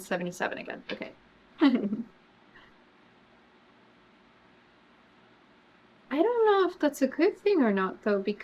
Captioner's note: laughs